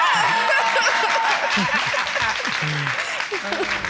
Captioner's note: audience applauding